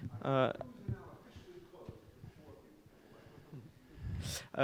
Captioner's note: man speaking softly